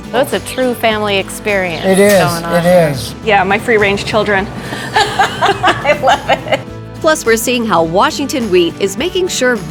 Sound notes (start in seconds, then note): 4.6 laughing